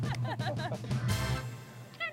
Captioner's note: laughs